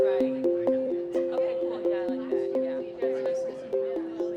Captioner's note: chatter